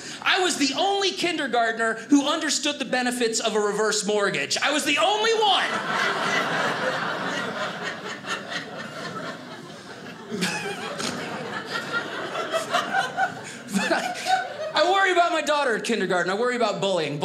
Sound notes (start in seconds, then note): 5.6 audience laughing; 11.5 audience laughing